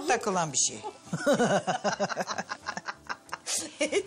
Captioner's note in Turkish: Gülüyorlar